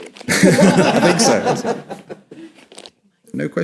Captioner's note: audience laughs